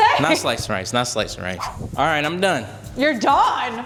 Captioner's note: none